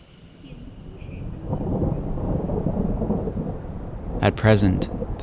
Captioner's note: thunder rumbling